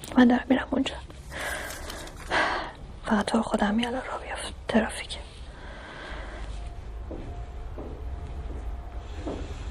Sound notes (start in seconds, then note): 1.3 deep breathing